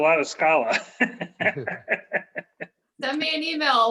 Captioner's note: laughing